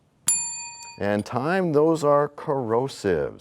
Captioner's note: bell rings, time expires